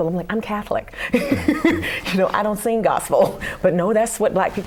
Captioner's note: laughter